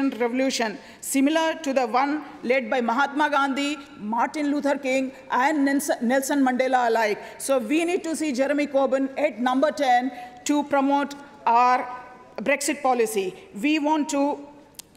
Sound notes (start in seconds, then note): none